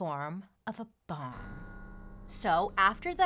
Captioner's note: bell sounds